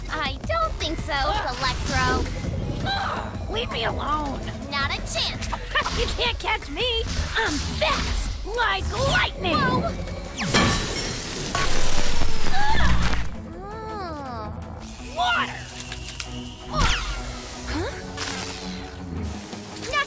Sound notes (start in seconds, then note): 10.5 clang; 11.6 water spray